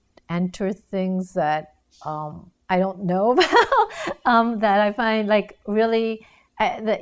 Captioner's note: laughs